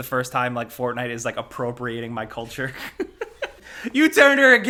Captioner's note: laughs